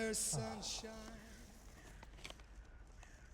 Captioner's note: sighs